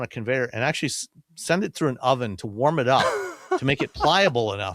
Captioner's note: laughs